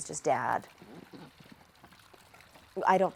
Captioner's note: water splashing